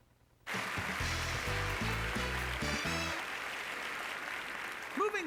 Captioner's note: applause